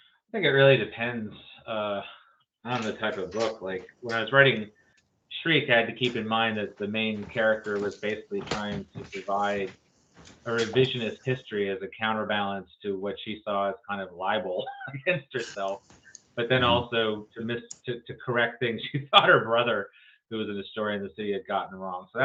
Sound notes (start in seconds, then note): 14.3 laughs